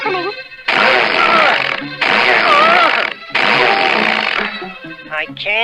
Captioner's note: Underdog struggles & sputters